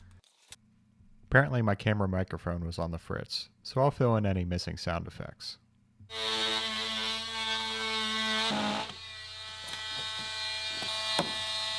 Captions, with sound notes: Apparently my camera microphone was on the fritz. So I'll fill in any missing sound effects. (tool grinding)